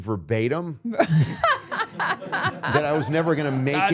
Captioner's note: all laughing